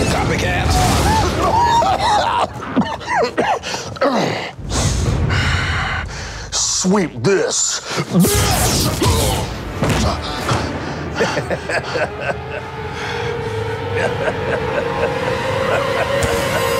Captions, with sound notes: - Copy cat! (Carl coughing) - Sweep this. (electricity buzzes) (Janitor grunting) (Carl laughing) (Carl laughing)